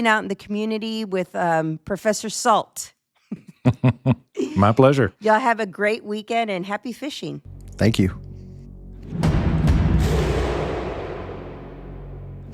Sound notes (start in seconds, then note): 3.3 laughs; 9.4 suspenseful music